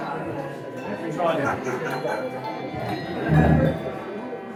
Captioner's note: handbells ringing